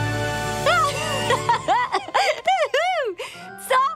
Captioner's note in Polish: śmieje się